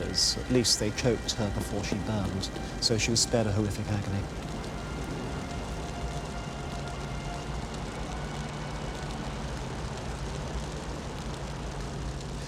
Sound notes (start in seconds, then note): 4.4 flames flicker